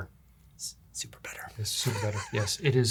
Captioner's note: whispering